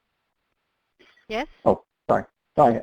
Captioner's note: voiceover